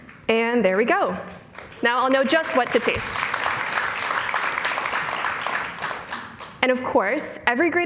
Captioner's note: cheers and Applause